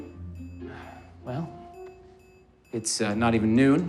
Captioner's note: sighs